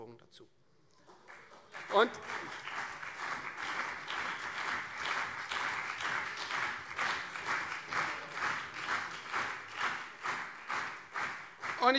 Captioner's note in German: Beifall Freie Demokraten und CDU